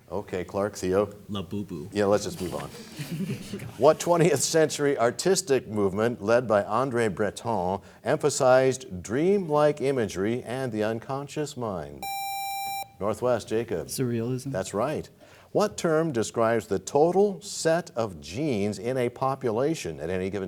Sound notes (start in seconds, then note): 4.4 laughter